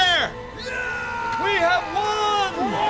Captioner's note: soldiers cheering; cheering